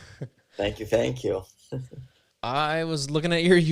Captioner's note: laughs; laughs